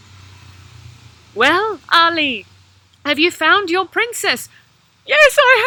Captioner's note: Bride of the Sea voice